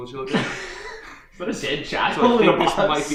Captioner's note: laughing